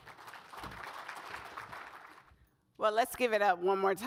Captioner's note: audience applauds